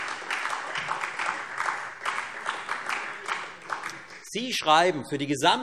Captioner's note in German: Beifall Freie Demokraten, SPD und AfD